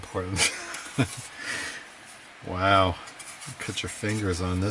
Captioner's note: laughing